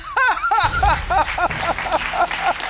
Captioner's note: grandmother sobs